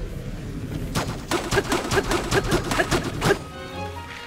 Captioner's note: Link grunting